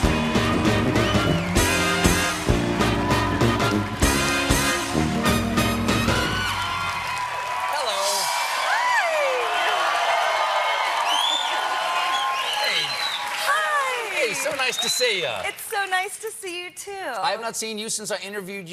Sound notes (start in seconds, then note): 9.1 cheering